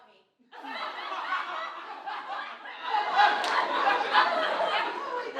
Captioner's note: planets maniacally laughing